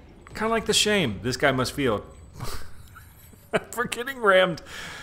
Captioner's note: chuckles